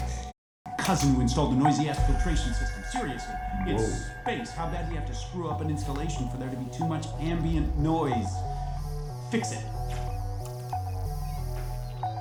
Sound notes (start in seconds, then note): 9.7 message zapping out